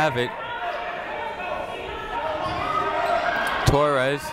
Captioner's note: people shouting in the crowd